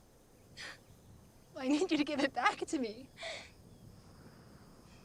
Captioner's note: sobs